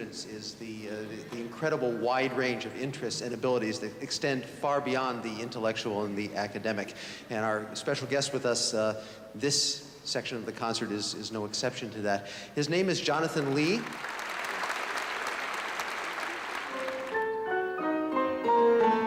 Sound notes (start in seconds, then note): 13.4 applause